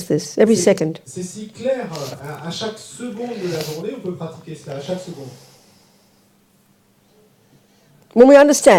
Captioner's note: French